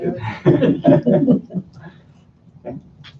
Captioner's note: laughter